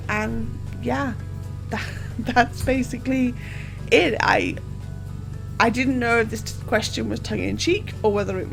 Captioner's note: laughs